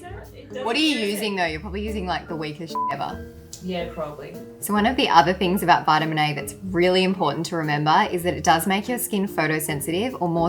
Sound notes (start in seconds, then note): 2.7 beep